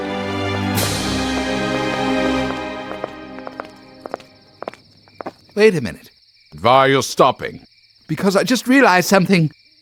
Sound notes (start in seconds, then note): 3.1 footsteps